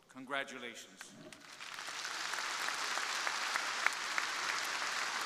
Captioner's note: crowd applauding